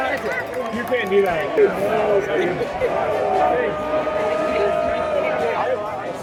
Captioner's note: ”No Kings” chants